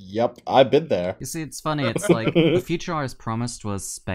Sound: laughter

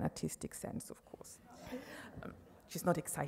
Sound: audience laughs

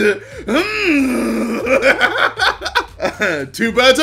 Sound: grunting noise

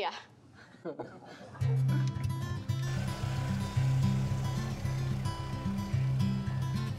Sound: people chuckling; light hearted music

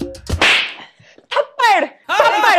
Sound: slap

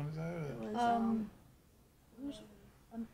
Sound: speaking faintly

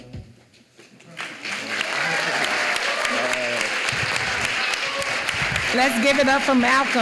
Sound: applause

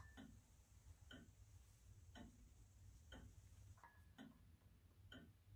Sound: clock ticking

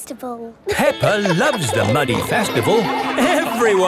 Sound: laughing

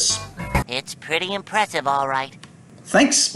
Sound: Spongebob voice clip

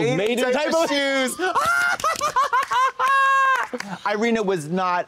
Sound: blonde women applaud and cock-a-doodle-doo

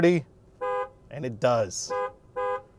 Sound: horn honking

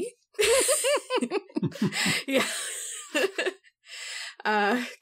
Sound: all laugh

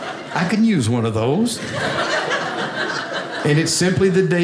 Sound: audience laughing

